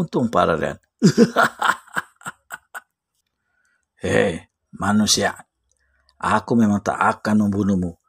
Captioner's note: laughs